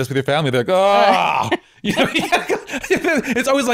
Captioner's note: laughing